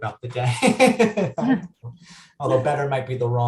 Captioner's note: laughing